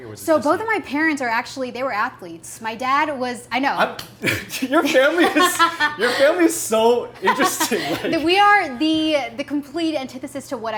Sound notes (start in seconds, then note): 4.5 laughs